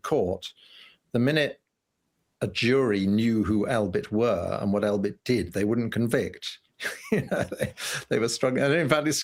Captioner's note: laughter